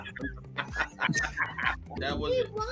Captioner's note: all laughing